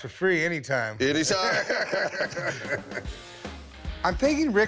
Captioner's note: both laugh